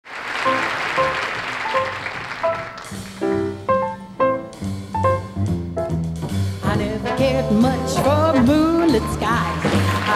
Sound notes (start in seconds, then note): 0.0 audience clapping; 1.5 jaunty piano music